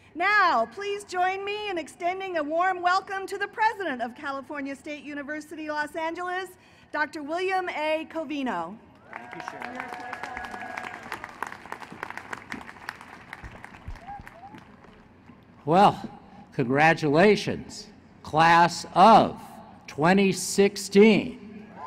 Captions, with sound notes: Now, please join me in extending a warm welcome to the president of California State University Los Angeles, Dr. William A. Covino. >> Thank you, Cheryl. [ Applause ] Well, congratulations, class of 2016!